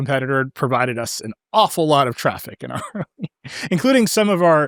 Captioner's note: laughs